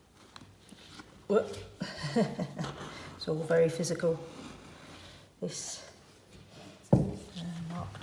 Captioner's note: laughter